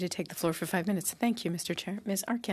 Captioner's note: speaking French